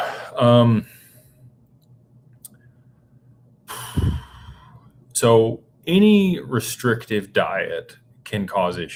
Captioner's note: sighs